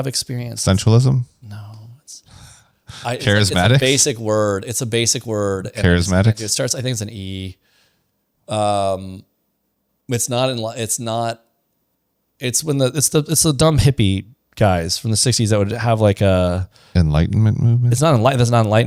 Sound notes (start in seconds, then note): 2.9 laughs